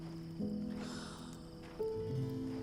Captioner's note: sighs